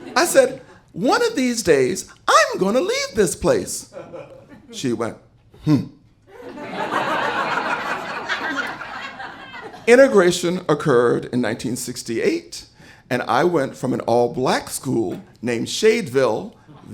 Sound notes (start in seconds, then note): 6.3 audience laughing